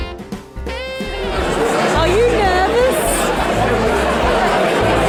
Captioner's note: crowd noise in background